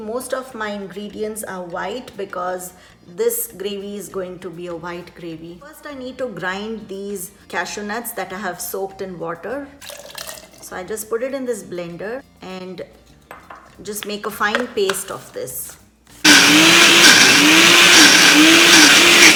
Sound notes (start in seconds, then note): 10.0 water splashing; 16.2 motor grinding